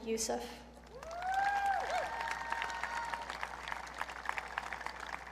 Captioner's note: audience cheering